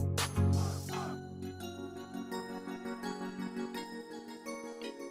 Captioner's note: gently chiming bells